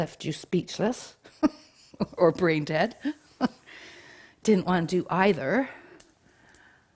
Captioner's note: chuckles